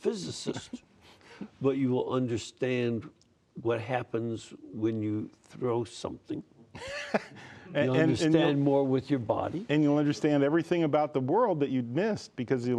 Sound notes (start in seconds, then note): 6.7 laughter